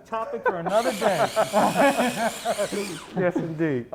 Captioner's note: laughing